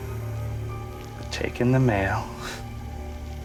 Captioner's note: scoffs